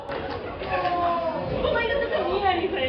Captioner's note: everyone freaking out